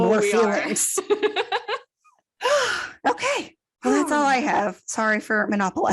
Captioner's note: sigh